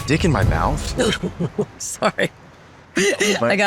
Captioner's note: laughs